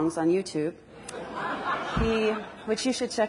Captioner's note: audience laughs